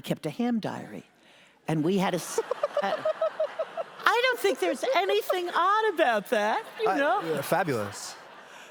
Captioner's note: audience laughter